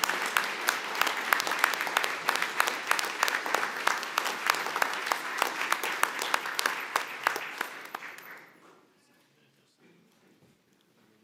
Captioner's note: applause